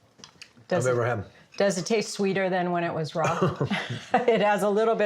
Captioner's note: laughs